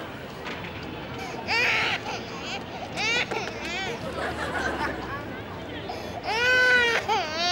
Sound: baby crying

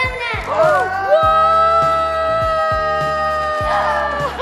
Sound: everyone cheers

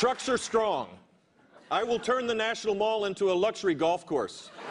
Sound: applause

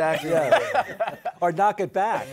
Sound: laughter

